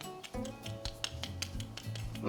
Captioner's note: tapping sound